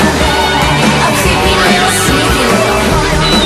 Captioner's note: boing!